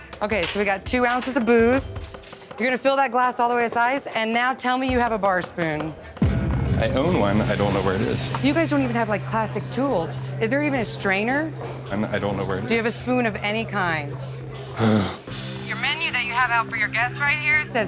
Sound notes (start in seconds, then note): 14.8 groaning